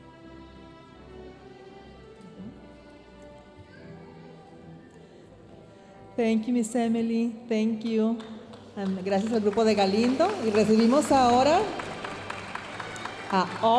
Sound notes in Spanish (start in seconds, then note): 6.2 hablando en inglés